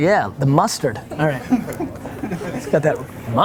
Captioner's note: laughing